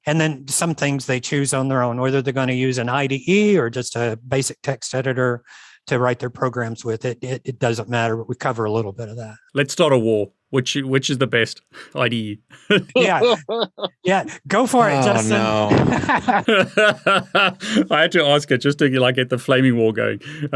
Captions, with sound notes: And then some things they choose on their own, whether they're gonna use an IDE or just a basic text editor to write their programs with it, it doesn't matter, we cover a little bit of that. - Let's start a war. Which is the best IDE? (laughs) - Yeah, yeah. Go for it, Justin. (laughs) - Oh no. - (laughs) I had to ask it just to like, get the flaming war going.